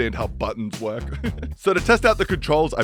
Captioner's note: cute Giggle